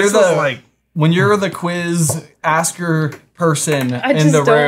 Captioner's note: hand dropping